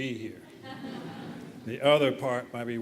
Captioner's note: laughter